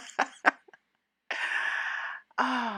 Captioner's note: laughing